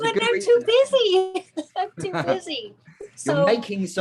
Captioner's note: laughing